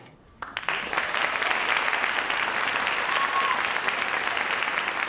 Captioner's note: audience applauds